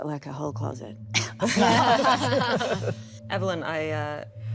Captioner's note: everyone laughing